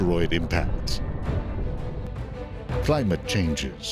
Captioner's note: booming explosion